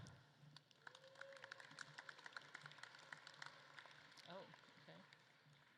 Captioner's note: audience claps